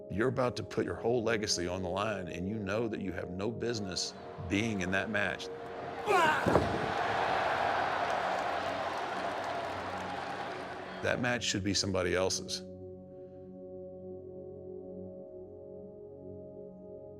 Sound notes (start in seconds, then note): 6.0 Undertaker grunting; 13.6 pensive music continues